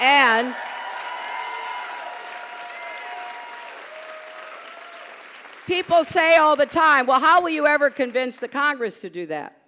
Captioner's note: applause